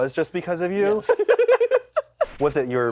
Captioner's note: laughs